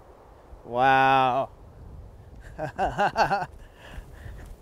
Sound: laughing

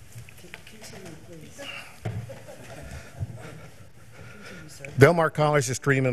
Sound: members laughing

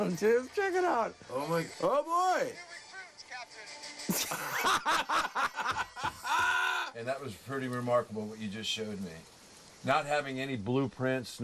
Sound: laughter

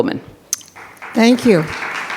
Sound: attendees clapping

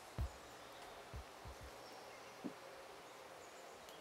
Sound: birds chirping

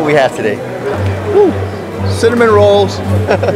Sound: people chattering

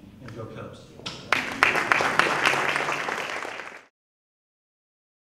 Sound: applause

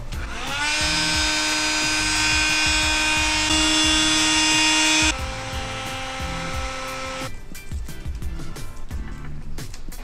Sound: heat gun whirring

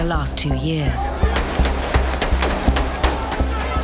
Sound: gunfire; crowd clamoring

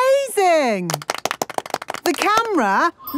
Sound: applause

